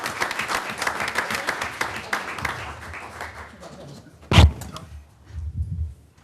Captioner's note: applause